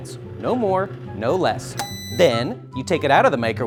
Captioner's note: microwave beeps